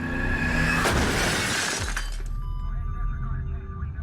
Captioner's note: crashing sounds; beeping of medical equipment